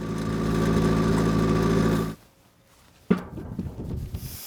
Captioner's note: machine grinds